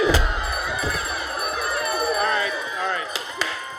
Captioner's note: bell rings